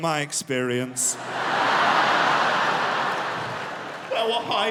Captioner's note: audience laughing